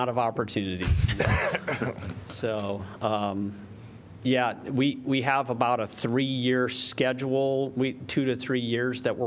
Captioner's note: laughter